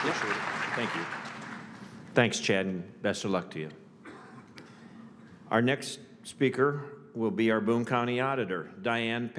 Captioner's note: applause